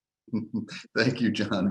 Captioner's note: laughing